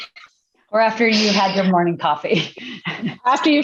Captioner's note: laughs